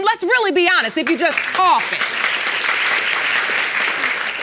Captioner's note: audience clapping